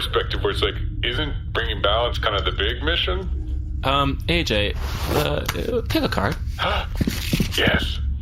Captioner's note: shuffles deck